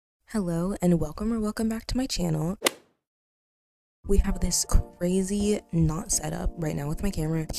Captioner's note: golf hit sound effect